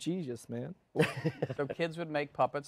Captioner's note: laughter